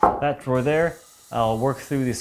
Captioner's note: bandsaw quietly buzzing